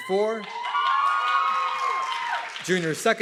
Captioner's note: audience clapping and cheering